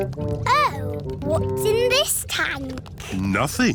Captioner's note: none